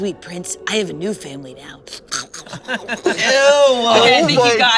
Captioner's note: slurping